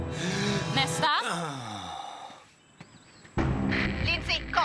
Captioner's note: inhales; exhales